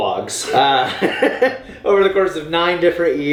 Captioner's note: laughing